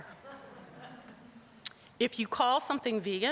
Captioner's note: audience chuckling